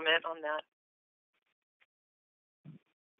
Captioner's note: silence